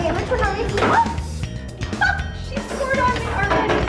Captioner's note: gasps